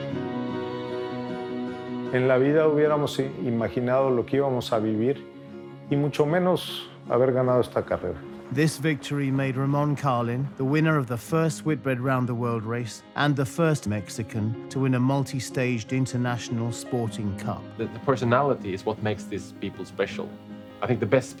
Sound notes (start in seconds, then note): 6.7 in English